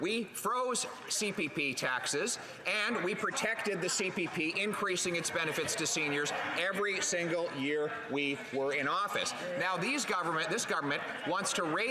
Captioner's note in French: voix de l'interprète